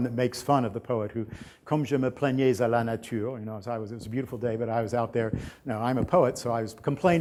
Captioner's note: french